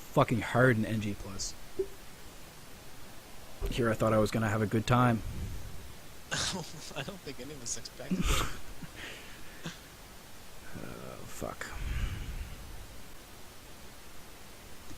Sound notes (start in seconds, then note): 6.3 chuckling